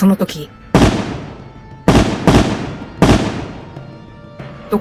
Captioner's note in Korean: 총성